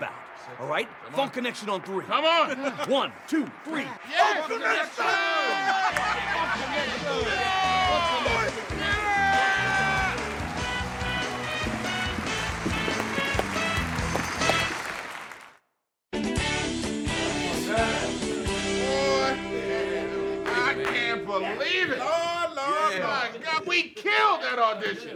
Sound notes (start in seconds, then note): 4.9 lighthearted music; 6.8 cheering crowd; 16.1 uplifting music